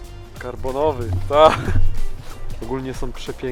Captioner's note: laughs